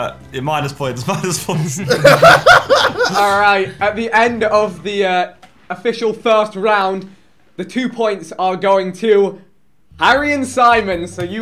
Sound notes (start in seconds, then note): 1.5 laughing